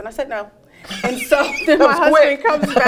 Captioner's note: both laugh